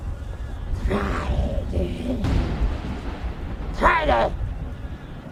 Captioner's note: Scrapenian growls